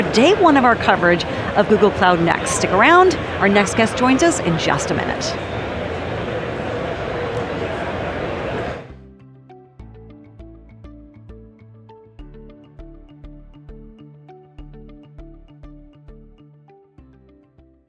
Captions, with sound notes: day one of our coverage of Google Cloud Next. Stick around. Our next guest joins us in just a minute. (crowd chattering) (bright music)